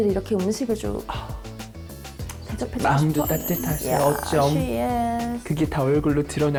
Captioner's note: sound of admiration; cheesy compliment sound effect